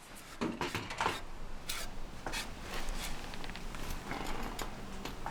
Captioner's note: wood scraping